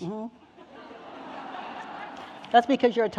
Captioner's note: audience laughing